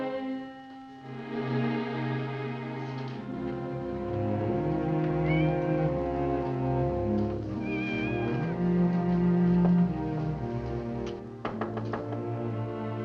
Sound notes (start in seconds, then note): 5.1 cat meows; 7.6 cat meows; 11.4 knocking on door